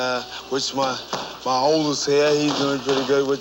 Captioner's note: fists thumping